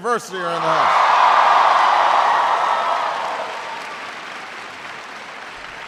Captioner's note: audience cheering